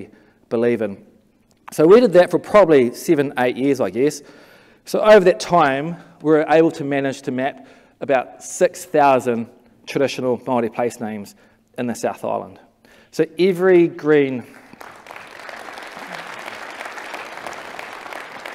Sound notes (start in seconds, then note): 14.5 clapping